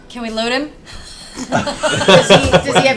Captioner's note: all laugh